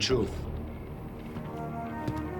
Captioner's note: footsteps